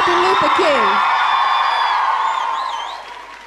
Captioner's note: audience cheering